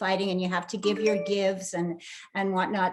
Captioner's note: phone dings